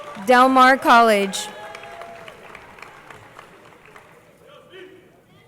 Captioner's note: crowd applauding